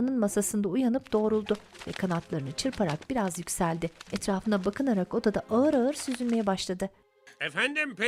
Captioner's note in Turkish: Kanat sesleri